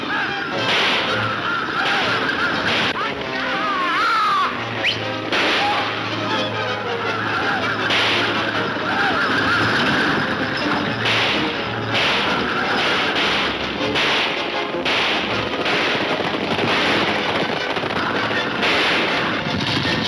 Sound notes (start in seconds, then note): 4.7 whistles; 6.3 gunshots banging; 16.9 gunshots banging